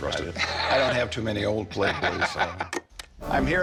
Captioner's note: laughs